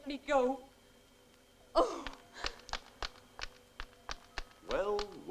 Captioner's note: groans